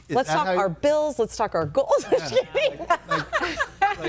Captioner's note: laughs